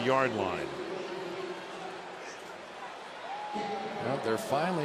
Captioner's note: pa announcement